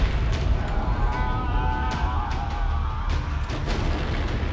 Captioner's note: yelling; dramatic music